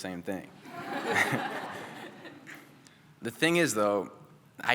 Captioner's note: laughter